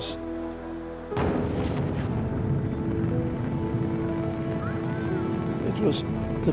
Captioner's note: rockets firing